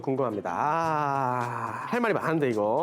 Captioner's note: sigh…